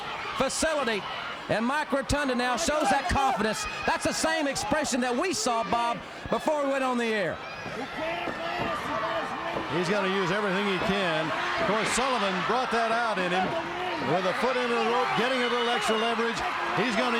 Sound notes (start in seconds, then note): 7.7 crowd chatter